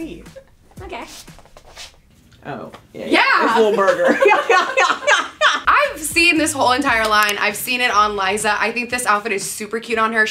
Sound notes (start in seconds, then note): 0.2 woman laughs; 3.5 women laughing